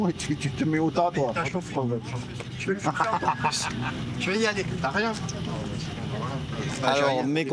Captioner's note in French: rires